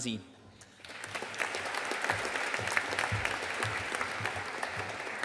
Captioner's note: audience applauding